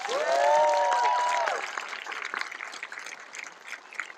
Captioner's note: cheering, applause